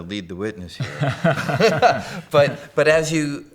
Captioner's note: both laughing